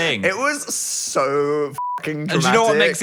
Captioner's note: beep